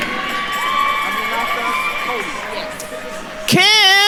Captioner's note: attendees cheering and applauding